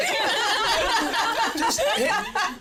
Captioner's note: laughter